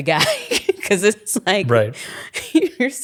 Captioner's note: chuckling